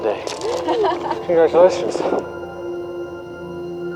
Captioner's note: laughs